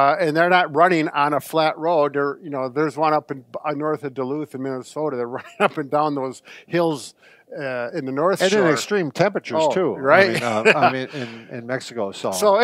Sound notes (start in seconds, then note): 10.2 laughs